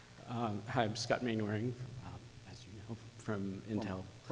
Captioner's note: voiceover